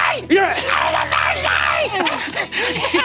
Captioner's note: choked; screeching; Brennan laughs